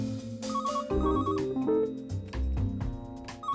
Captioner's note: telephone ringing